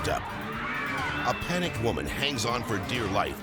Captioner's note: bystanders screaming